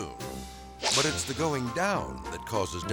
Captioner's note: air swoosh